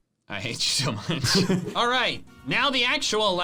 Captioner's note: both laughing